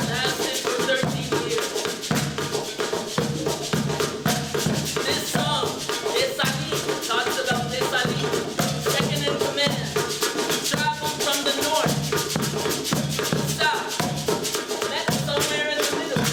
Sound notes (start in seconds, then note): 5.8 non-english